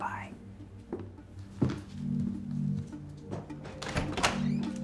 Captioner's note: footsteps echo